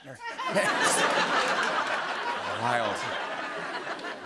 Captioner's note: laughter and applause